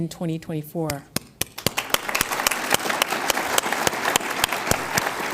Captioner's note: audience applauds